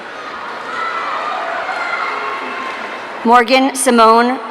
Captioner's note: audience cheering